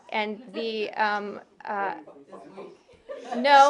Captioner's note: laughter